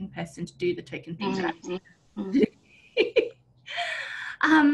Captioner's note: laughs